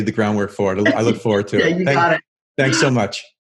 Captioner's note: laughs